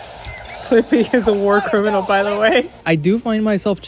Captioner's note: laughing